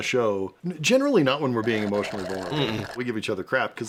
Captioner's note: slurps